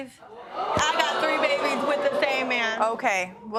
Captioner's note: audience react